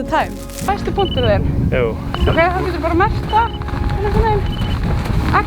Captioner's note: speaking in Icelandic